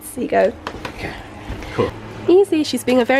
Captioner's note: butt pat sounds